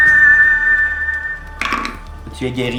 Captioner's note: Riz'shar whistles a major chord; dice roll